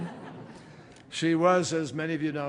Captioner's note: laughter